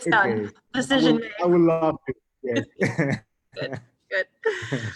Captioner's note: both laughing